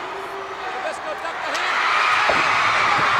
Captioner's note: crowd cheers